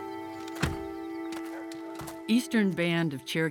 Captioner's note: door closes